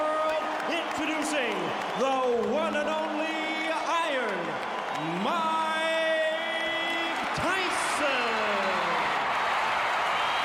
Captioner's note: applause